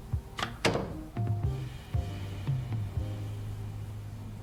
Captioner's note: door clacking